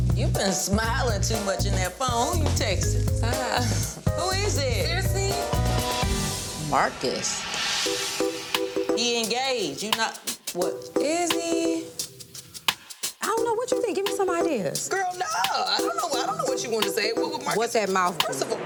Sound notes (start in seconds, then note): 7.8 gentle upbeat music; 15.3 stutters